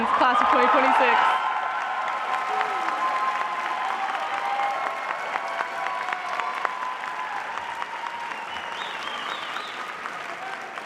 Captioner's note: cheering and applause